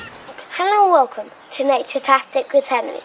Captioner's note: harbour noise and Seagulls